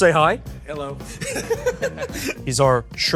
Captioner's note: laughs